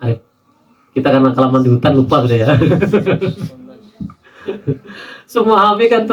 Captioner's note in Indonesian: tertawa